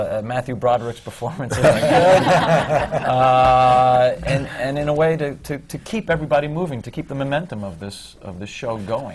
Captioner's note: laughter